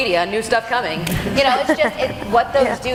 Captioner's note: laughing